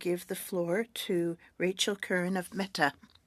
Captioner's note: speaking French